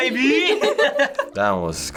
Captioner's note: both laugh